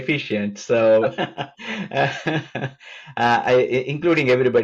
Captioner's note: laughs